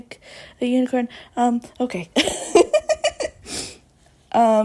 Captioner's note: laughs